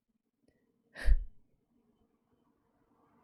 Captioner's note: exhales